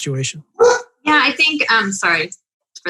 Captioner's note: dog barking